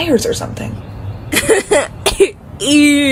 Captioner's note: laughs